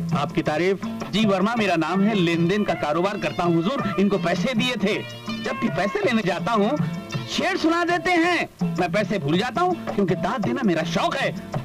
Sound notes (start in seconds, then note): none